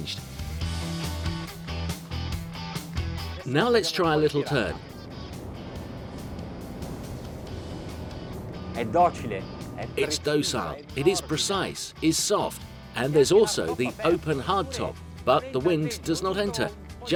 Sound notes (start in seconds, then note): 0.3 upbeat music; 8.9 speaking foreign language